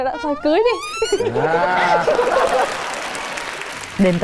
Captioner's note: laughing; applause